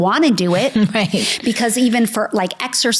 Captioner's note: laughs